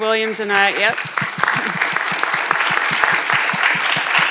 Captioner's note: audience applauds